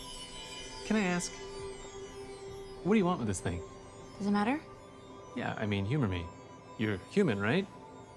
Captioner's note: none